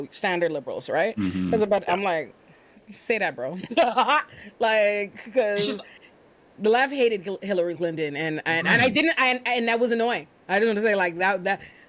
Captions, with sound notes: standard liberals, right? Cause I'm like, say that bro. (laughing) Like, cause the left hated Hillary Clinton. And that was annoying. I didn't want to say like that,